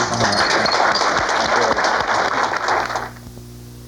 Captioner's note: audience clapping